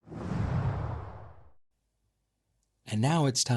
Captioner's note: air swooshing